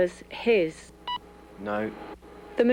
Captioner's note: machine beeps